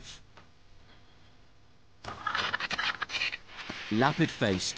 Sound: vultures screech

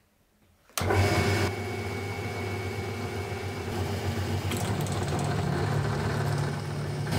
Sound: drill press whirring

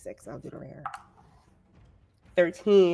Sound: dice clatter

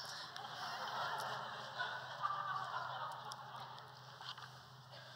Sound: laughter

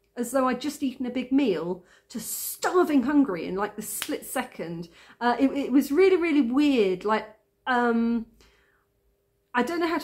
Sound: clicks finger

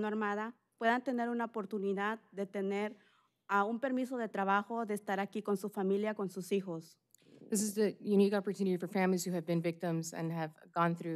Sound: speaking spanish

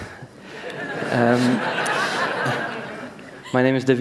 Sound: laughter

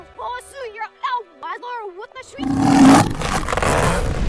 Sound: roar

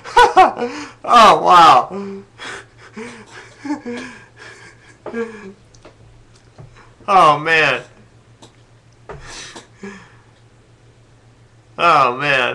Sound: laughing; laughs; gasping; gasps for breath

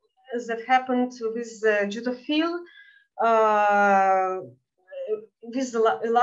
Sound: speaking in Yiddish

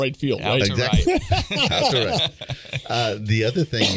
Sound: everybody laughing

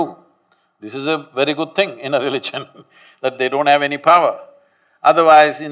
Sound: laughs

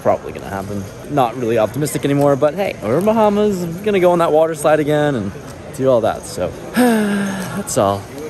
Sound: sigh

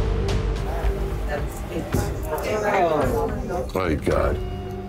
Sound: tense music playing; patrons chatting

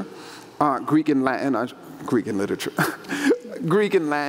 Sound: laughs

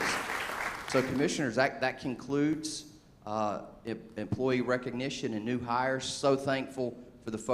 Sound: applause

